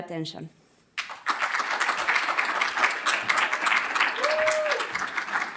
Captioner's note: applause